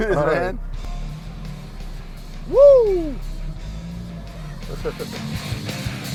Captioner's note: laughs; engine hums; laughter; engine hums